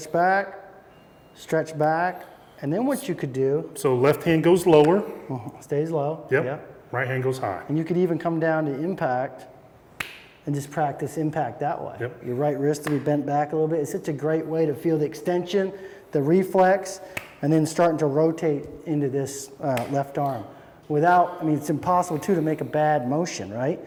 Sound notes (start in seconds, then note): 10.0 clapping